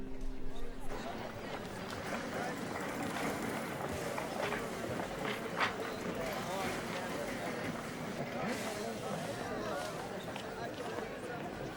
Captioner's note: chatter